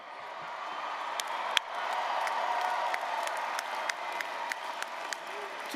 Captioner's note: applause, cheering